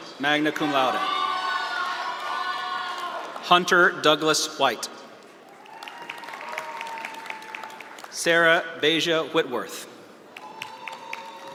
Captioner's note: graduates walking